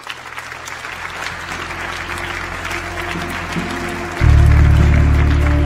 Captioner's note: audience claps